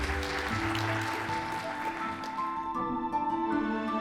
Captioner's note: audience applauds